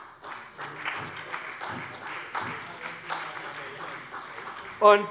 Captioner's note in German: Beifall bei der SPD